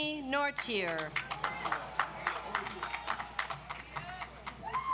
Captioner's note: audience applauds